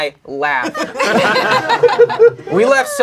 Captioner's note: crowd laughing